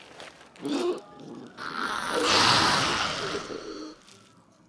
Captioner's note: rabid ghoul noises